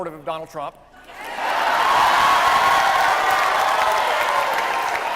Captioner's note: audience cheering